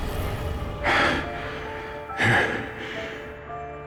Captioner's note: gasping